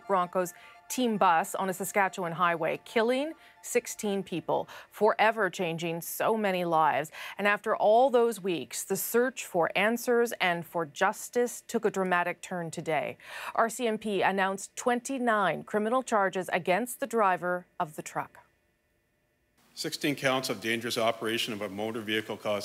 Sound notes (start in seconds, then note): none